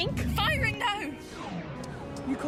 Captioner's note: argo’s gun shoots